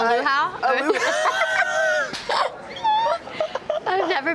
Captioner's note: laugh